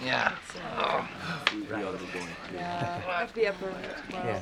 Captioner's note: chattering